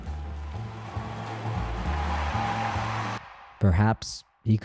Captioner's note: audience applauding; audience cheering